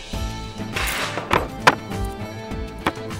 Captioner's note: Dragging chair